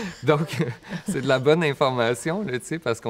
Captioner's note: laughs